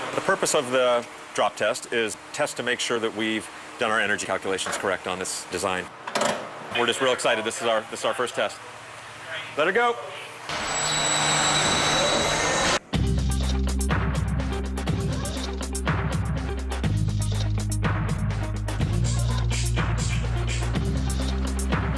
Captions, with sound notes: - The purpose of the drop test, is test to make sure that we've done our energy calculations correct on this design. We're just real excited. This is our, this our first test. Let her go. (screeching) (calm music)